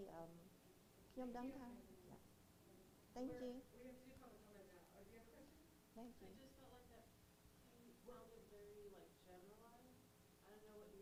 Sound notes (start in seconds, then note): 0.2 speaking in foreign language; 4.2 audience member softly speaking